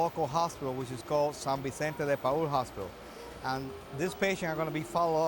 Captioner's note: speaks in Spanish